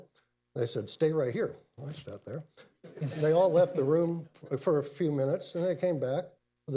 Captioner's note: laughter